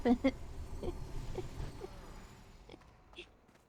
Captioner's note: laughing